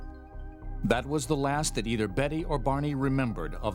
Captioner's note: voiceover